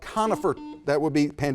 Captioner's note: buzzer buzzes